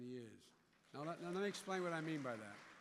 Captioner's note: applause